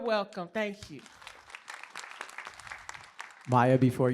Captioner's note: applause